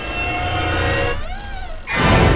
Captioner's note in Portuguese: porta rangendo